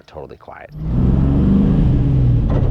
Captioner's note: car engine revving